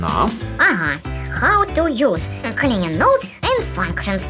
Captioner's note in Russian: читает на-английском